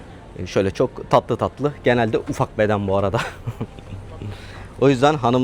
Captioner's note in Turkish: kahkaha